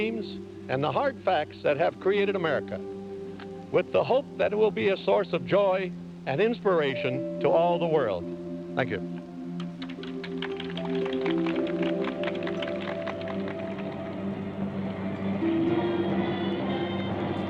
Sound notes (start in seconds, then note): 9.6 audience applauding; 12.6 gentle orchestral music